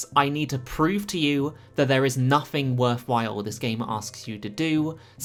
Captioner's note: none